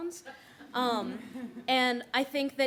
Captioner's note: laughter